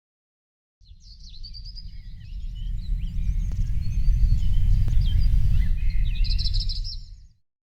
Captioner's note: birds chirping